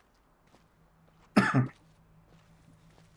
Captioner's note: coughs